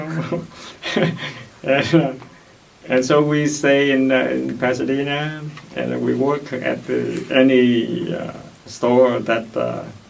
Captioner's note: laughs